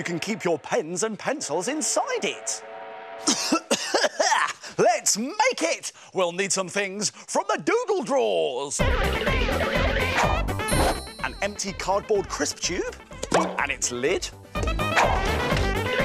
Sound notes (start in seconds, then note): 3.2 coughs